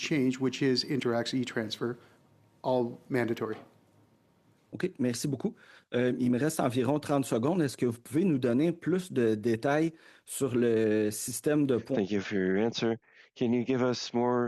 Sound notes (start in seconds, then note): 8.9 speaking in French